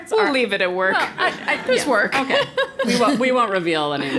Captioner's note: laugh